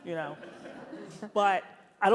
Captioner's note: audience laughs